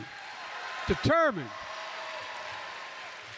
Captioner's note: applause